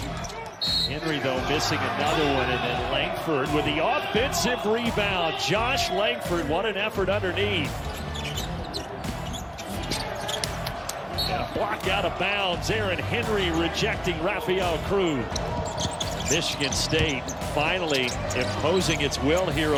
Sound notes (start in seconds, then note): 7.7 shoes squeaking; 15.2 shoes squeaking